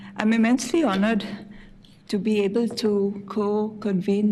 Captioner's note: none